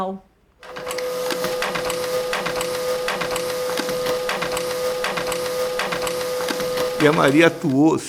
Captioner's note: graphic machine copies</b></i> <i><b> sheets repeatedly